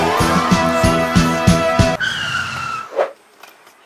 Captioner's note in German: Bremsen quietschen